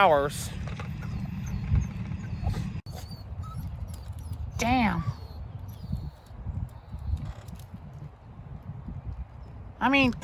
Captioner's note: Ella whimpers